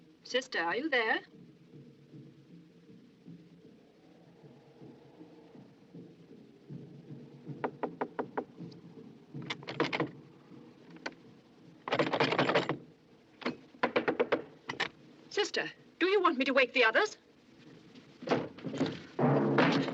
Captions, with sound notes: Sister, are you there? - [ Knocking ] - [ Clattering ] Sister, do you want me to wake the others?